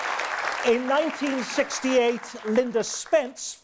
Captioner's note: audience applause